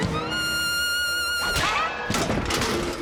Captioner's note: smack